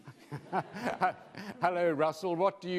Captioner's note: laughing